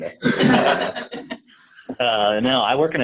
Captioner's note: laughter